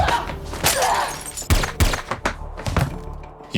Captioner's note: glass smashes; two suppressed pistol shots ring out